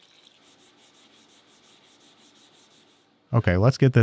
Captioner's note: metal scratching